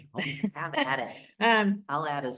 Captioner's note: laughter